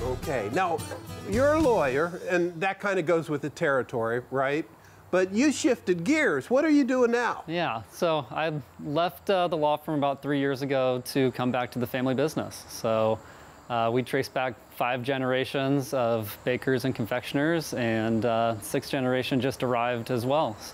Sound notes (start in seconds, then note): none